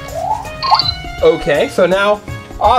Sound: beeping

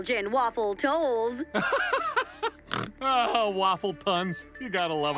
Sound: laughing, snorting

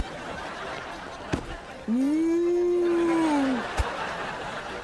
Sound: mooing

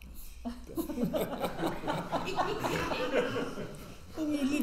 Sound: all laugh

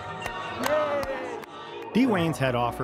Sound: hands clap

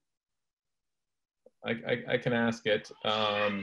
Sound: laugh

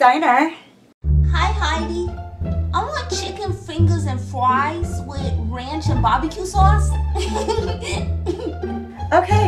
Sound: giggling

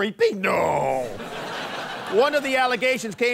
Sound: laughter

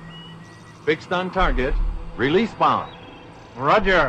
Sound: radio speech: "Fix on target. Release bomb"; radio speech: "Roger. Releasing bomb"

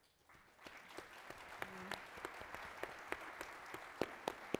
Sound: crowd applauds

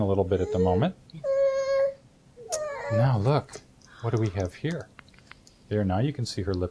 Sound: crying

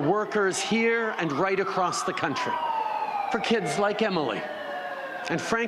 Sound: siren

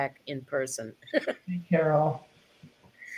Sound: chuckles

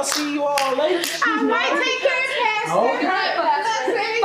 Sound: indistinct chatter

